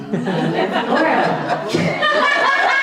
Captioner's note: audience laughing; laughter